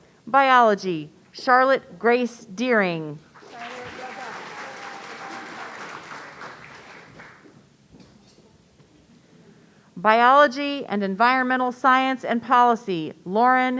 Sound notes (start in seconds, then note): 3.3 audience applauding